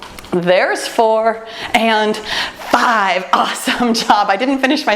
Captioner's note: laughs